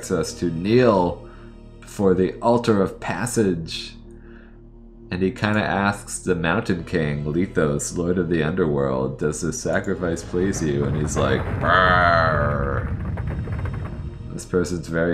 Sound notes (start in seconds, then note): 10.8 brrrrrrrrrrgh!